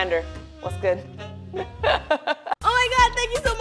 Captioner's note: laughs; lips trill